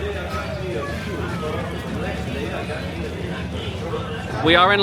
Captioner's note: announcer on speaker